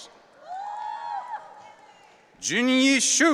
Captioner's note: audience cheering